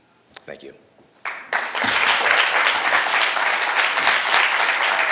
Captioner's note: audience applauding